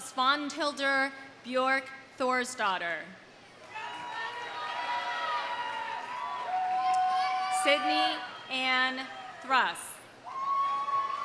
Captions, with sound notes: Svana Hilder Bjork Thorisdottir. (audience cheering) (audience applauding) Sydney Anne Thuss.